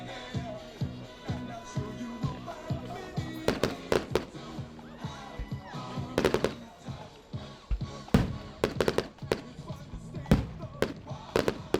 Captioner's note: fireworks